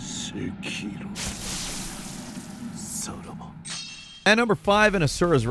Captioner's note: in-game dramatic sounds